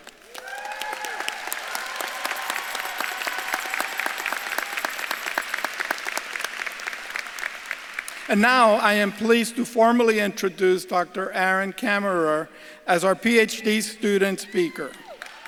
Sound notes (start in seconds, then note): 0.0 audience claps and cheers; 1.7 bells jingling